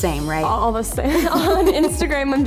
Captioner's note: laughter